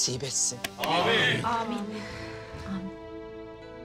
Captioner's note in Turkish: Hep bir ağızdan